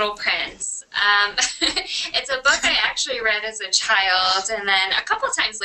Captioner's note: laughs